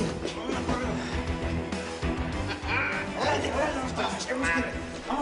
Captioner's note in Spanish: Exclamaciones; Hablan al unísono